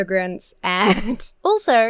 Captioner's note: laughs